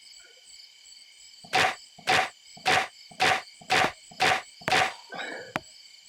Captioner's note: heavy knocks cracking; wood tapping